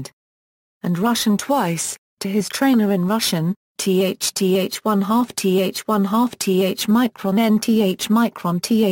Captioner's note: to his trainer in Russian